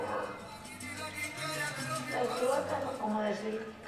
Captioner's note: speaking spanish